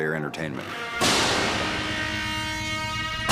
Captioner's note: banging